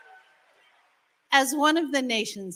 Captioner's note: applause